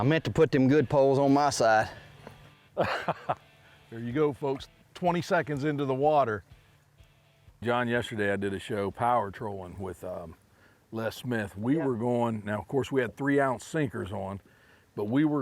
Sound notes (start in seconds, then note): 2.7 laughing